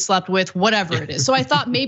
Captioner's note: laugh